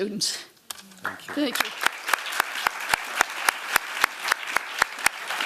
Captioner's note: applause